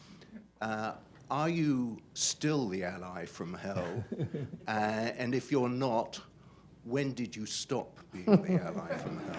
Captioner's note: laughter; laughter